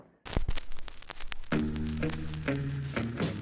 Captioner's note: record crackles; upbeat 60s music